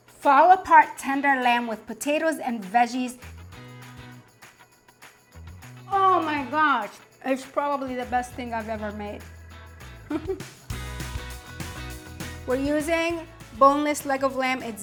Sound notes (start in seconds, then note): 3.1 upbeat music; 9.8 laughing